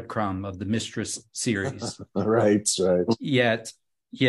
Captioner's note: laughs